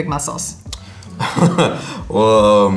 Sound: laughs

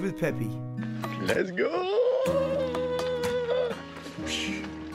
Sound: excited voice

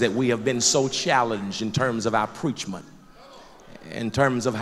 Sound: loud crowd agreement

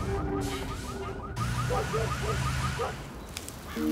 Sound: alarm; distant dog barking; bird cawing

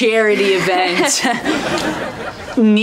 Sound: chuckles

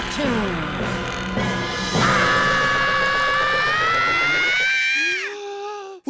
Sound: screaming

